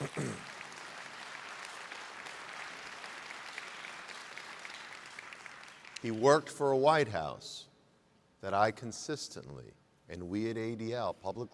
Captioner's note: applause